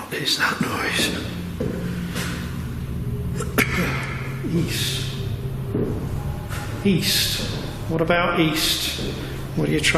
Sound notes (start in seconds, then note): 3.3 coughing